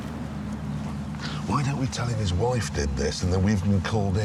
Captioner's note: whispers